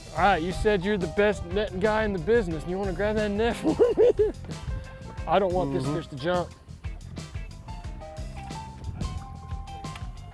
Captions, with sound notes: All right, you said you're the best netting guy in the business. You wanna grab that net for me? (chuckles) I don't want this fish to jump.